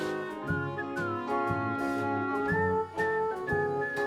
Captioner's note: singer whistling